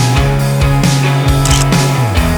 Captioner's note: photo click